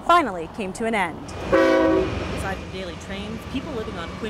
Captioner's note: Train honking NATS